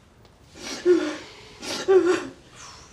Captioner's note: sobbing